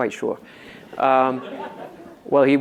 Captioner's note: audience laughs